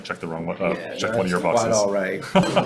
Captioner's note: laughs